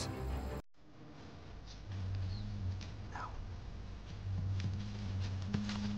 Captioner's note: whispering